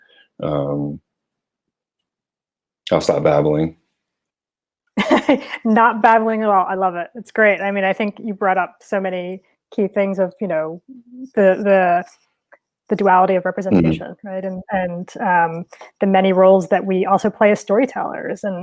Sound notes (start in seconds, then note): 5.0 chuckling